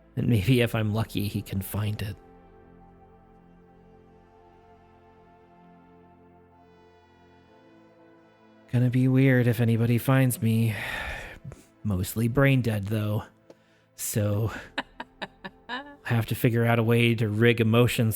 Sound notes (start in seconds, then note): 10.8 sighs; 14.3 chuckles